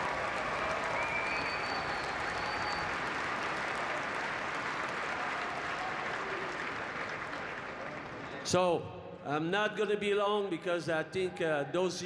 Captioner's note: cheering and Applause